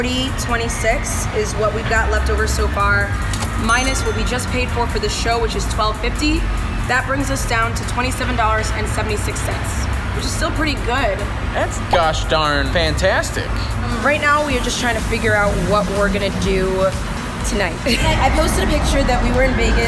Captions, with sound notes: - $40.26 is what we've got leftover so far. (cash register rings) Minus what we just paid for for the show, which is $12.50. That brings us down to $27.76. Which is still pretty good. - That's gosh darn fantastic! - Right now we are just trying to figure out what we're gonna do tonight. I posted a picture that we were in Vegas,